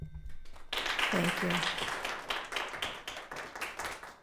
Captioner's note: audience applauding